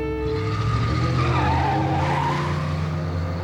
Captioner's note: tires screeches